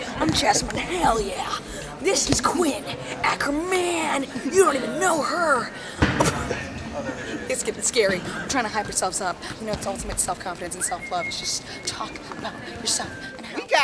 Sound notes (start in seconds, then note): 6.9 laughs